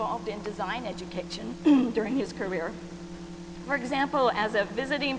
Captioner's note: clears throat